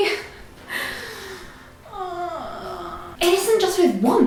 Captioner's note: groans uneasily